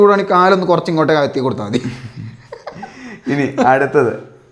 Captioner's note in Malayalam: പൊട്ടിച്ചിരി